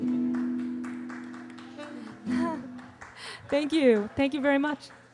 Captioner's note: audience applauding